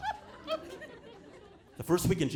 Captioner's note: audience laughing